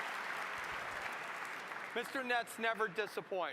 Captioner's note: applause